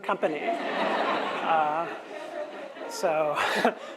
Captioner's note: audience laughs